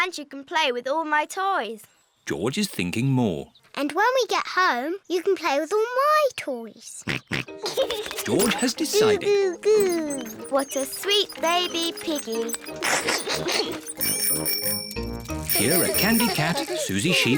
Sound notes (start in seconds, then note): 7.3 snorts and giggles; 13.4 giggles; 14.4 bicycle bells tinkle